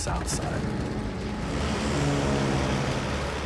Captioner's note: airplanes whirring